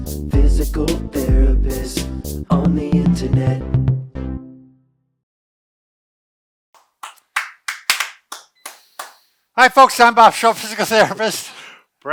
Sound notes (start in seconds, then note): 6.7 clapping